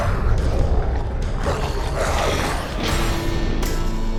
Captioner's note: grumbling; growling; theme music